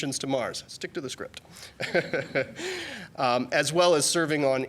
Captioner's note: laughing